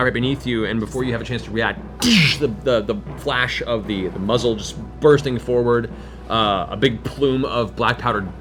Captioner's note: gunshot